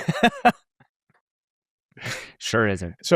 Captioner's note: laughs